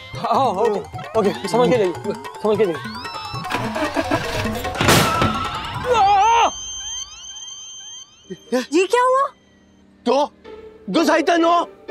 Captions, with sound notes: Okay. Take care. [starts the car] Ah! What happened? [speaks Japanese]